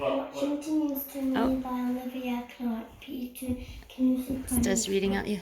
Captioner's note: voice recording starts playing